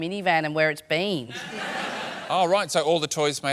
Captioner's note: laughter